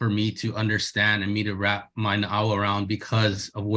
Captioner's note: speaks in Hawaiian